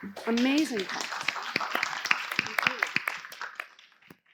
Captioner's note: class applauding